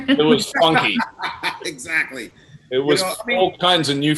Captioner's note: laughing